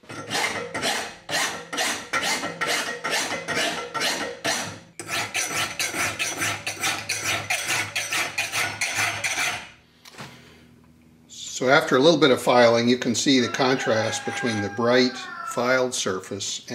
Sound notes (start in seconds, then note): 0.3 sound of metal being filed; 4.9 sound of filing metal continues; 13.3 sound of a rooster crowing